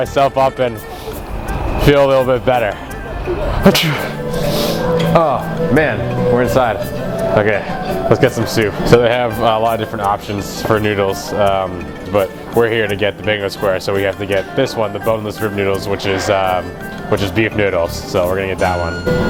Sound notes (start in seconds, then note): 3.7 sneeze